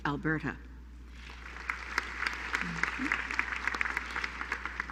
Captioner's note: applause